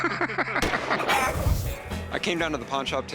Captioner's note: gunshot; bird squawks